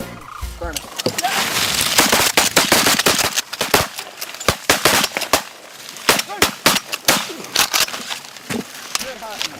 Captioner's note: gun shots